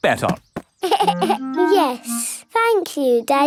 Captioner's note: giggles